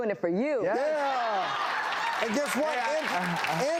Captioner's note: audience claps